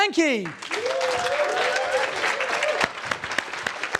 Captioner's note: audience claps